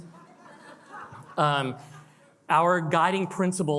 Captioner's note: attendees laugh